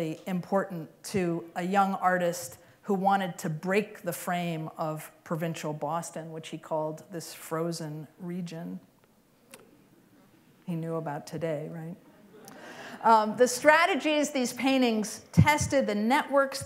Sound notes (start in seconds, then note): 12.0 laughter